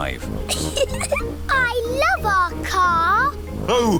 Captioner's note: giggling